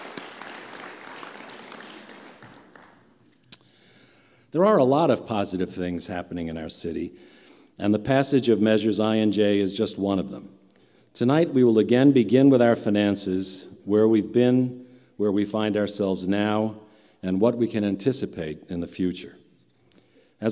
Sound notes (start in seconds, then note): 0.0 applause